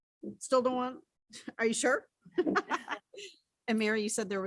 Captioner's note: laughs